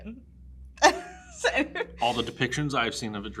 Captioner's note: laughs